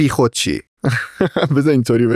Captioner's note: laughs